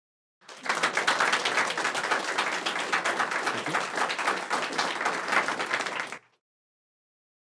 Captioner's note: applause